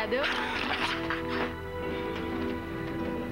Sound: Rires

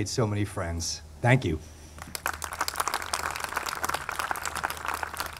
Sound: audience clapping

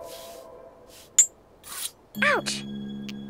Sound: ice scraping

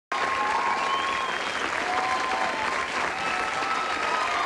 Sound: audience Applause

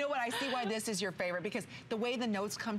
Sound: laughter

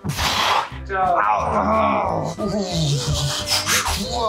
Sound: groans

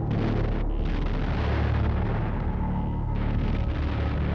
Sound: bombs exploding

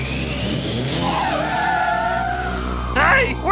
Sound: tires screeching

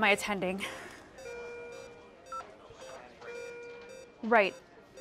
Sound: medical equipment beeping

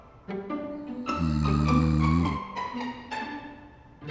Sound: snoring

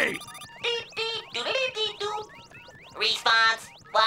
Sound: beeping

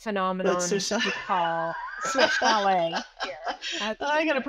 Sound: laughs

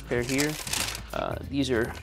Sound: paper rustling

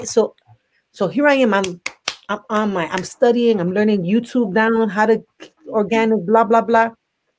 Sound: claps

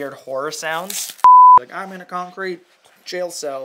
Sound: beeping

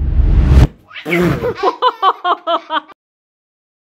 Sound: laughter

